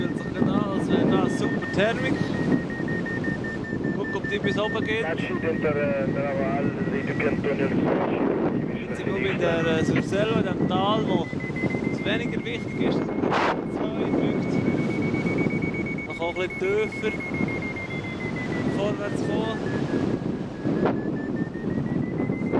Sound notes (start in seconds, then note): 5.7 italian radio transmission